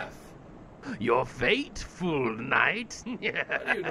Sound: laughter

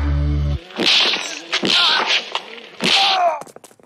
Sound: punches

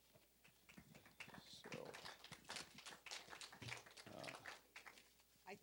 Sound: applause

